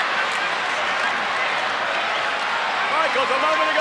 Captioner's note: crowd chattering